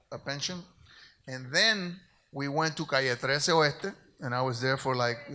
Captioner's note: speaks in Spanish